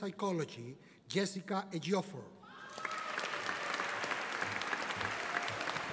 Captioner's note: audience applauding